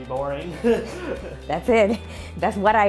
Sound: chuckling

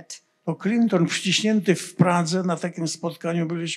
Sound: foreign language

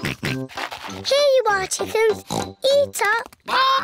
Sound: oinks

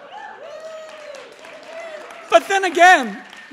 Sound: cheers

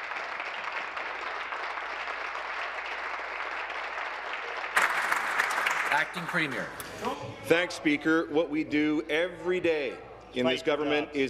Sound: applause

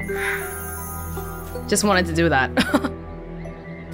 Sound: chuckles

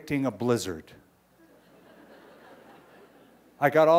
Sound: laughter

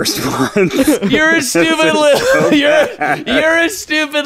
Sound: laughing

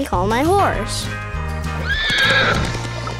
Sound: neighing

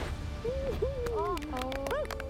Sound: applause

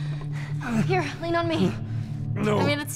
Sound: Joel grunts

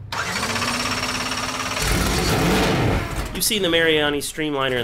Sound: engine revving

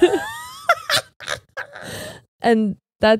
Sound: cackles

